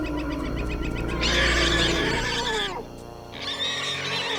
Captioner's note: Syntarsus squealing